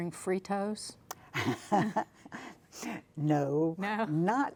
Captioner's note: laughing